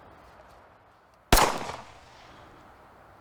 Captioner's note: gunshot